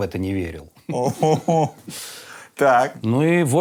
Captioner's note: groans